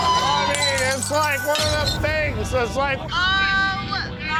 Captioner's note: customers yelling; glass shattering; babbling drunkenly